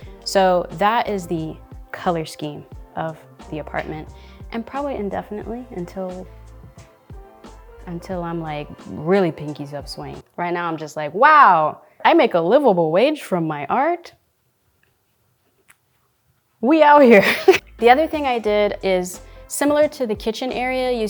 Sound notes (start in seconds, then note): 17.2 chuckling